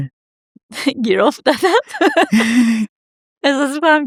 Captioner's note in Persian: خنده